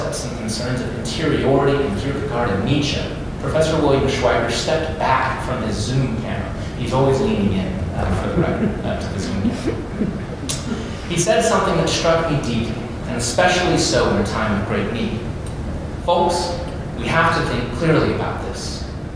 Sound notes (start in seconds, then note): 9.9 laughter